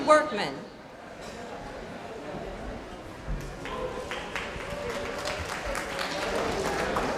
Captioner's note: applause